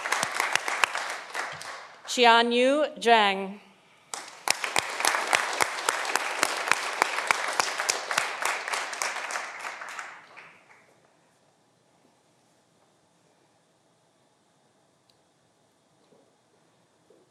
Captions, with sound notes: Qianyu Zhang. (audience applauding)